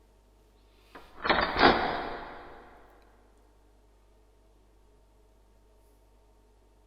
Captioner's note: metal slide of a door lock being unlatched